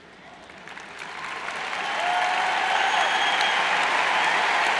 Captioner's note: cheers and applauds